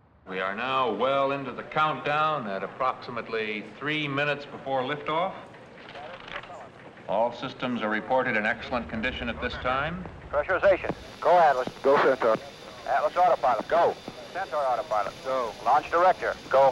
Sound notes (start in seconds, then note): 10.6 voiceover